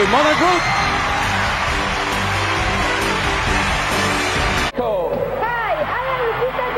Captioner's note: crowd cheering and applauding